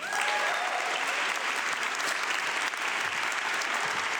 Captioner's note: audience clapping